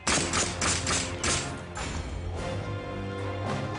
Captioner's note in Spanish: Detonaciones de disparos